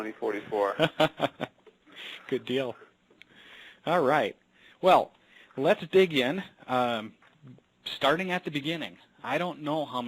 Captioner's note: laughter